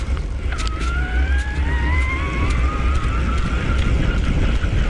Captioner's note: wind whooshing